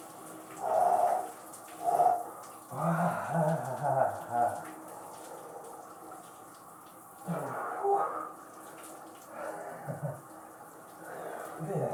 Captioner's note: more groans